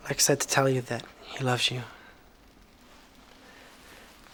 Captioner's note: none